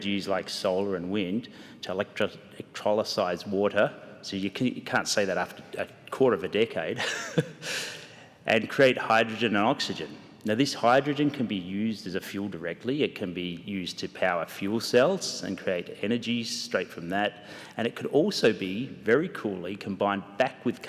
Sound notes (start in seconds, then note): 7.0 laughs